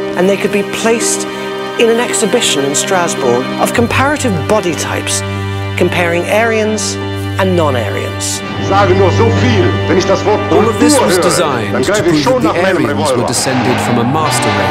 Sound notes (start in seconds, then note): 8.7 man speaking in German; 8.7 suspenseful music